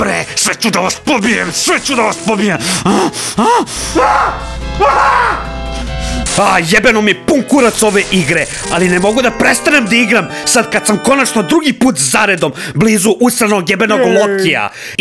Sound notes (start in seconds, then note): 2.8 screams in agony